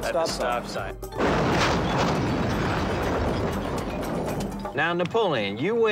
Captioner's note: metal crunching